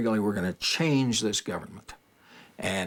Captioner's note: none